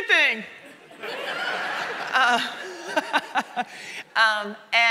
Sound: audience laughing

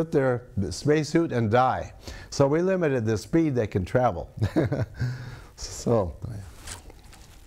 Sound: laughs

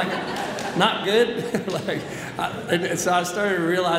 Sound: audience laughs

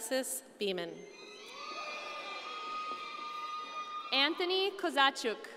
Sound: audience cheering

